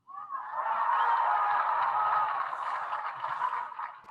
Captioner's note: audience applauding